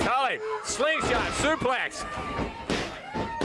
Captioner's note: crowd chatter